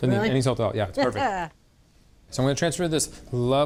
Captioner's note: laughs